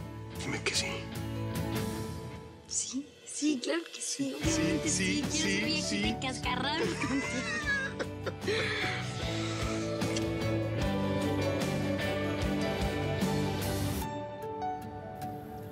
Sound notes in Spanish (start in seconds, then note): 4.7 Hablan al unísono; 6.7 Risas